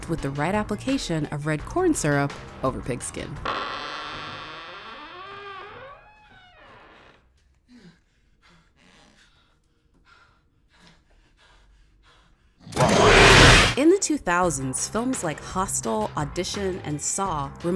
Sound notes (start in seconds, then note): 3.4 door creaking; 12.7 creature shrieks